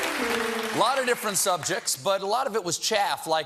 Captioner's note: piano riff; applause